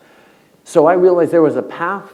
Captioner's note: none